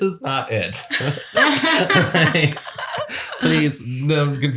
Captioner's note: laughter